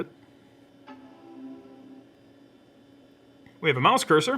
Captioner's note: computer dings quietly